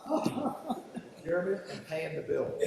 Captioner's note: laugh